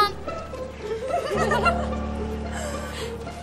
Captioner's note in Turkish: gülme sesleri̇